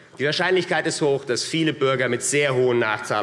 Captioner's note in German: none